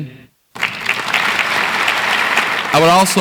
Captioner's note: audience applauds